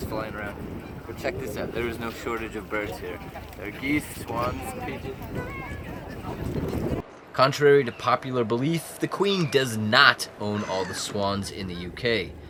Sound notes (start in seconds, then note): none